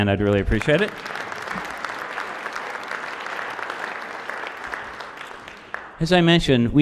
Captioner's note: applause